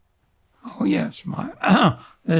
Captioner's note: clears throat